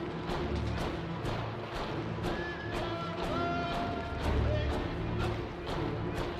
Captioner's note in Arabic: قائد يصرخ بلغة أجنبية